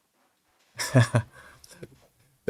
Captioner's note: laughs